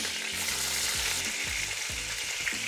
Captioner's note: sizzling sound